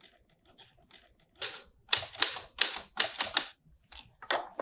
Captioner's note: typing